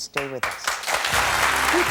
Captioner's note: audience applauds